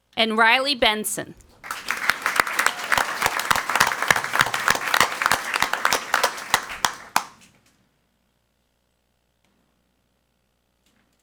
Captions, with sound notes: and Riley Benson. (crowd clapping)